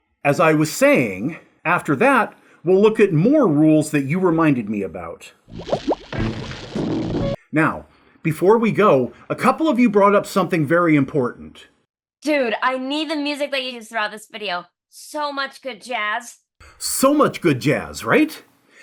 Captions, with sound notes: - ...As I was saying After that, we'll look at more rules that you reminded me about. (potions bubbling) (small explosion) Now, before we go A couple of you brought up something very important - So much good jazz, right?